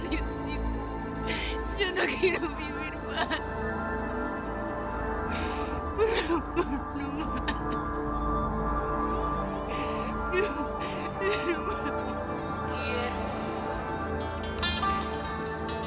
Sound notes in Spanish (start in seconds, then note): 4.6 Sollozos; 12.4 Habla entre dientes